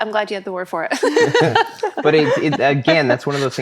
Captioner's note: laughing